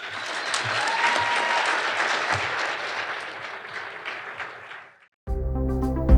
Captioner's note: audience applauding; upbeat electronic music